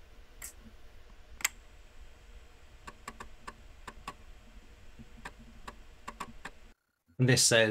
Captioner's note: floppy disk accessing